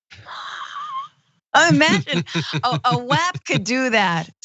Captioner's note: laugh